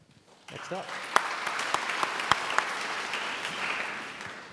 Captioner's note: applauding